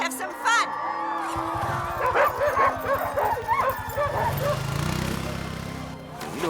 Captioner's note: crowd cheering; dogs barking